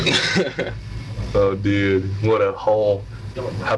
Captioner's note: dudes laughing